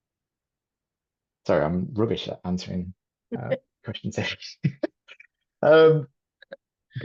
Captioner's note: chuckles